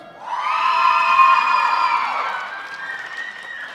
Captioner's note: applause